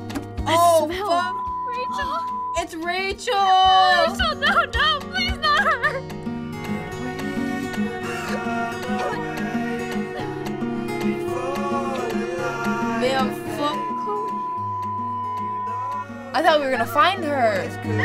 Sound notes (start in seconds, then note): 7.3 cries